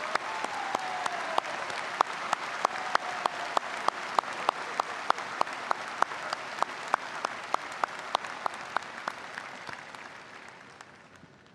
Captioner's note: applause